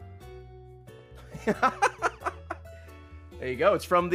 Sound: laughs

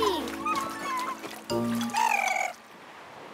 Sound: purring

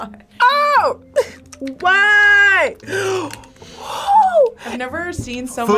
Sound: gasping

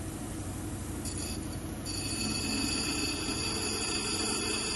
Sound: wheel grinding

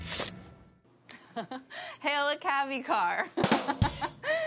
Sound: laughs

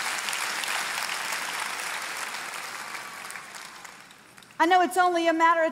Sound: congregation applauding

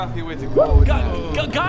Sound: panicked noises

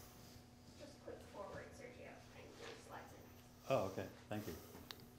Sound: woman muttering

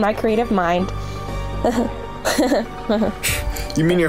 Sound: laughs awkwardly

